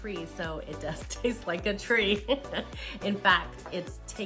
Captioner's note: laughs